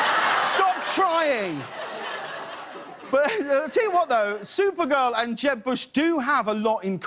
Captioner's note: laughter